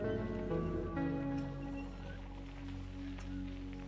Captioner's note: bike squeaking